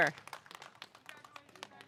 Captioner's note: audience applauding